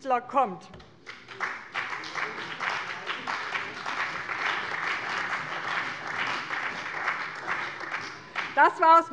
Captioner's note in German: Beifall bei dem BÜNDNIS 90/DIE GRÜNEN und der CDU